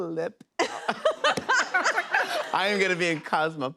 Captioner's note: laughter